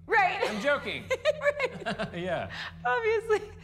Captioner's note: laughs; max chuckles